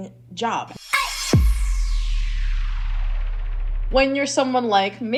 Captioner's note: explosion sound